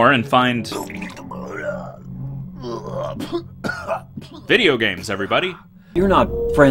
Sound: sounds of vomiting

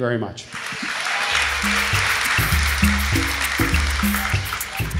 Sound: audience applauds

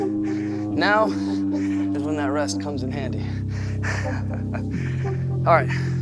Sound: laughs

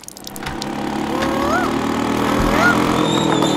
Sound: mimicking cuckoo's voice

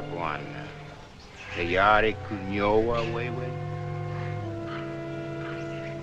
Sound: speaking African Language

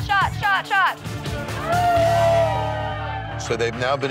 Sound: guests cheering

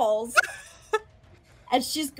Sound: laughs

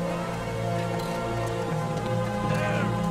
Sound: soldiers yelling

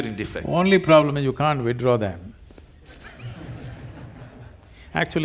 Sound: few laugh

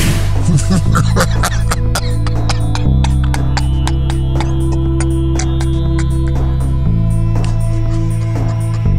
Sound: laughter

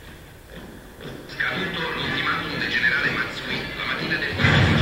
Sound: italian radio broadcast

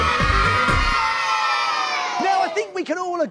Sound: cheering

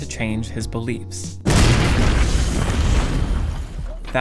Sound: explosion

